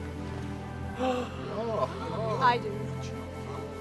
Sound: gasping

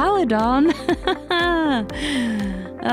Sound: uneasy laughing

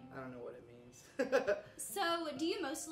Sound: chuckles

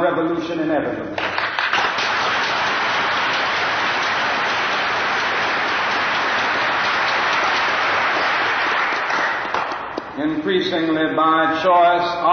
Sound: applause

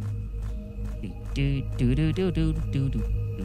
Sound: humming

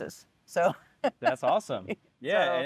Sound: laughing

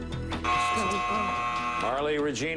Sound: buzzer

